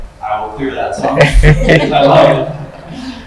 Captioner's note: group laughs